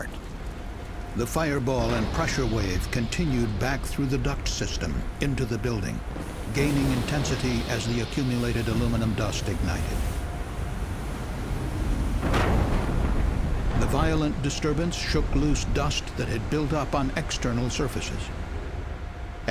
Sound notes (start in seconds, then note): 10.0 sound of explosions